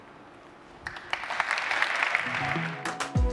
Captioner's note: applause